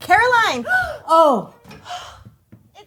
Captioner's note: Caroline gasping